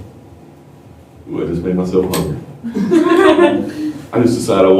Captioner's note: laughter